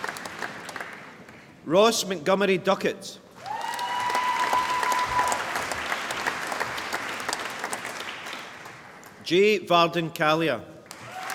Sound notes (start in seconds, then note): 3.4 applause